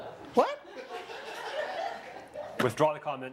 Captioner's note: audience laughs